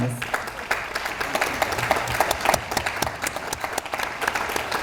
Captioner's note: audience applauds